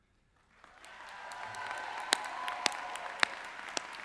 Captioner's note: cheering